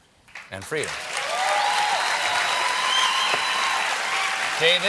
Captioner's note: cheers and applause